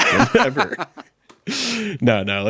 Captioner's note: laughing